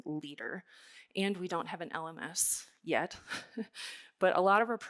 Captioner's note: chuckles softly